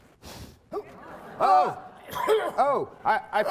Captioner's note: blowing; laughing; coughing